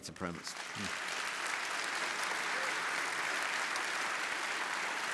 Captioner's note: audience applauding